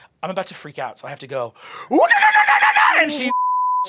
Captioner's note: ululating battle cry; beeping